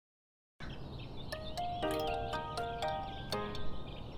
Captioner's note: birds Chirping